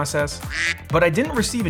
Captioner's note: duck quacking